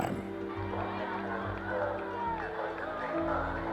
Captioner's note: cheering